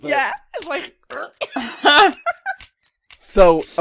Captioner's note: laughter